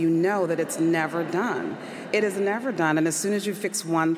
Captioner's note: audience laughs